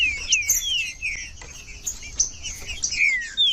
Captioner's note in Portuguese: trinca ferro cantando